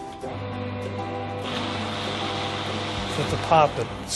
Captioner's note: shredder whirring